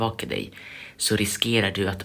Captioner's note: inhale